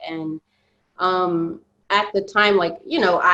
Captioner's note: none